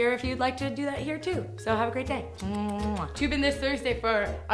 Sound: smooches

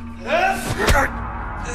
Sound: shout

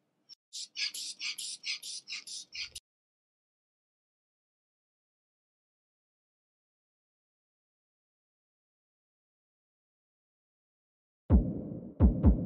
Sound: silence

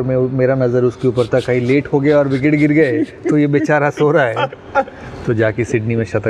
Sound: laughs

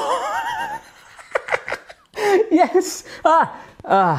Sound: laughs

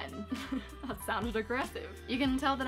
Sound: laugh

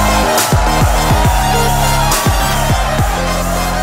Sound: audience cheering

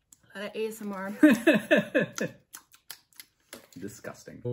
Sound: smacking sounds

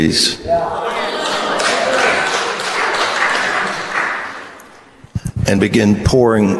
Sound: congregation cheers and applauds

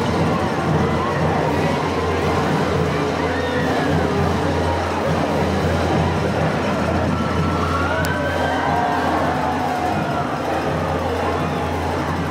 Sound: band playing; cheering

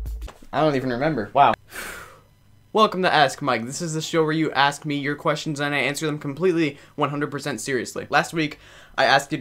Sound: breathes

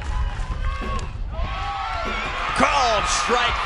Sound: crowd Cheering

